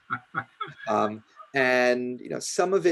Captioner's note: laughing